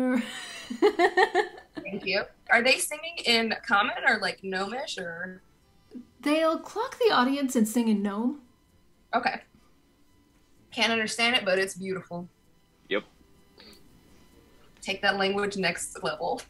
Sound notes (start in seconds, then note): 0.0 singing in Applachain folk style; 0.4 laughs